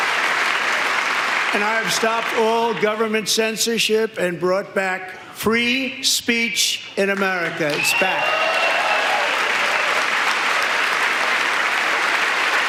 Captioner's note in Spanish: aplausos